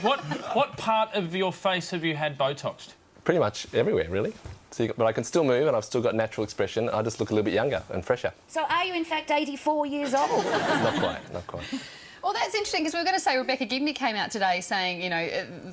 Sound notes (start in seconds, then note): 10.1 audience laughs